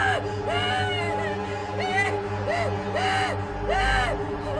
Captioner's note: screaming